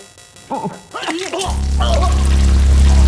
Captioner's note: vomiting